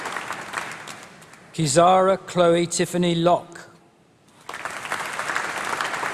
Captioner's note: applause